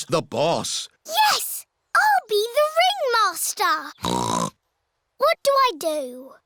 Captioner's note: snorts